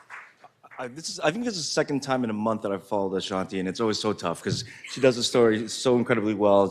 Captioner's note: applause